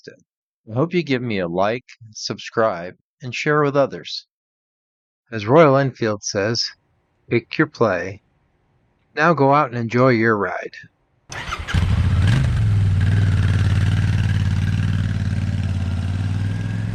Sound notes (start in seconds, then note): 11.3 engine starting